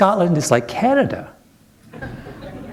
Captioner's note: laughter